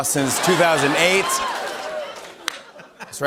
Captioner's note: laughter